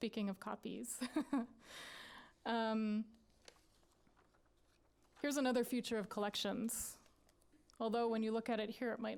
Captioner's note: laughter